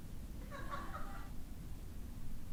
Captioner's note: laugh